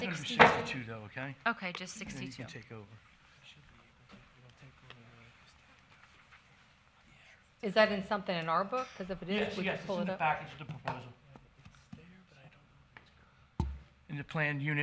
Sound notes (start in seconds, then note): 5.8 whispering